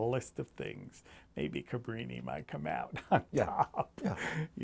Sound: laughs

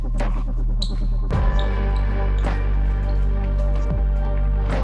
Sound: shoe squeaking

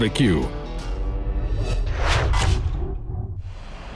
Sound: whooshing

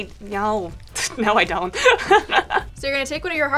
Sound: laughs

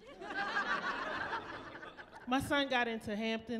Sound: laughing

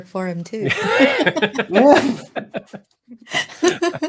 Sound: group laughing

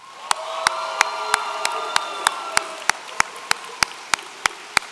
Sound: audience cheering

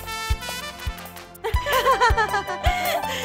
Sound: laughs

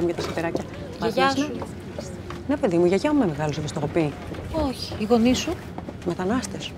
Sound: flight attendant and Vanina speaking foreign language

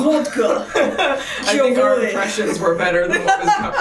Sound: laughs

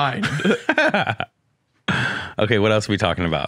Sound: laughs

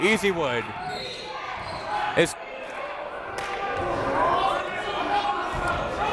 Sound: whistle

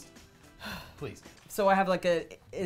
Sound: sighs

